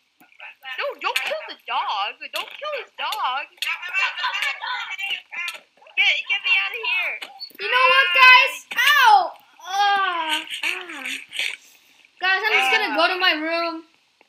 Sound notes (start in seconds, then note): 3.6 punching